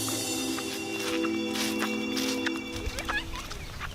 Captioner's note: theme music; footsteps crunching; birds singing